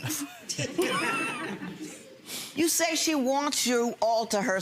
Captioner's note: audience laughs